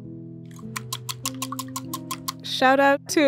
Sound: whisk clanging

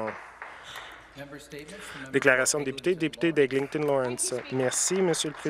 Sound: applause

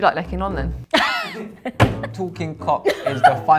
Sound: slaps table; laughs

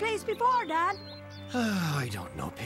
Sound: sighs

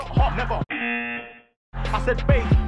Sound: buzzer

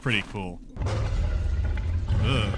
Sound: menacing roaring

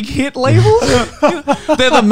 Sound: laughing

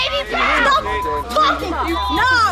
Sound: beep

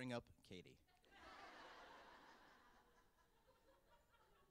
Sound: laughter

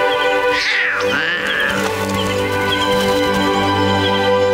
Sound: cubs moaning

